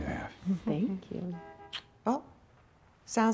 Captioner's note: horn honking